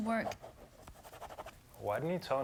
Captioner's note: pen scratching